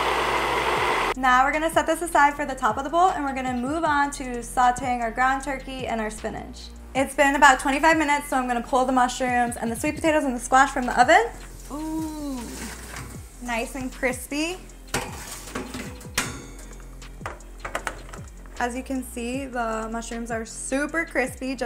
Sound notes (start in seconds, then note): 14.9 tray clanging